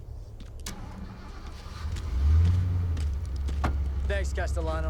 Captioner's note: engine starting